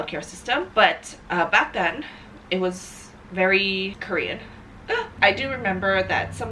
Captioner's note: laughs